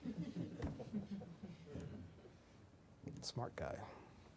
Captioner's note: laughter